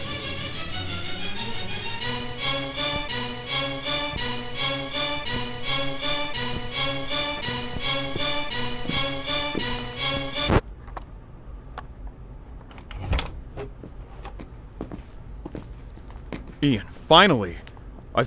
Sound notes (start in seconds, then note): 12.9 door opens